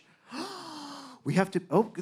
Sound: man gasping

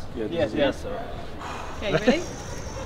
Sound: deep breaths

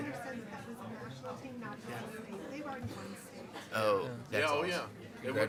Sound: attendees chattering

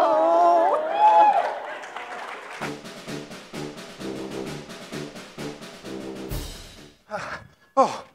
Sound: applause

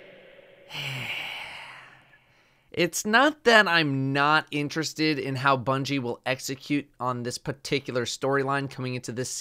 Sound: sigh

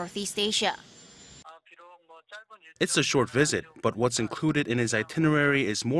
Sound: Korean

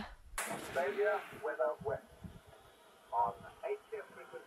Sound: radio Announcer

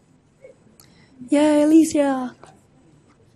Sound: voiceover

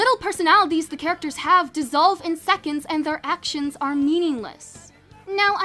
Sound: none

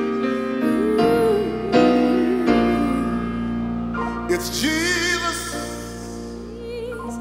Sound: woman humming

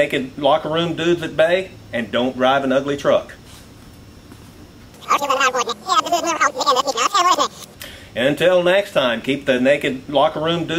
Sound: rewind noise

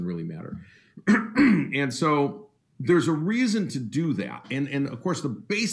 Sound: clears throat

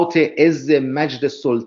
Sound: persian reading

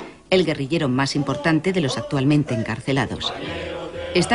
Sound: audio in Spanish

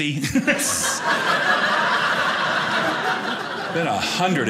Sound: audience laughing

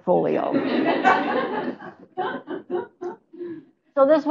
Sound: laughter

